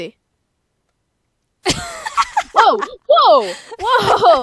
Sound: laughing

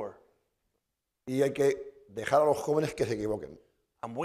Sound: speaking spanish

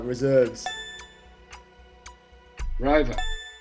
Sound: ticking noise

